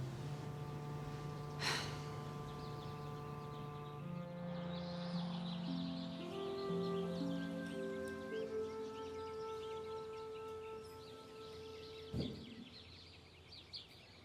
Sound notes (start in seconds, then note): 1.5 mother sighs; 2.8 birds chirping